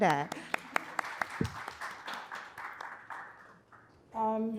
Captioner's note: audience clapping